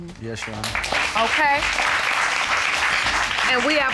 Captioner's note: applause